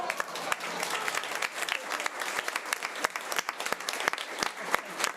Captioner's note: audience applause